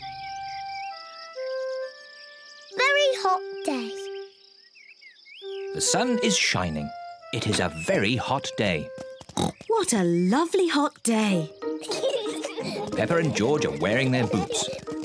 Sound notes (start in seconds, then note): 9.4 oinks; 11.7 peppa and george giggle